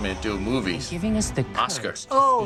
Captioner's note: voice-over